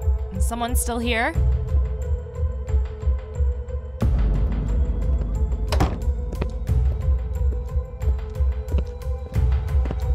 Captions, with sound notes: Someone's still here? [door closes]